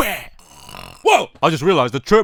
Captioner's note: snores